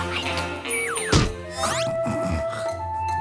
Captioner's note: snorted snores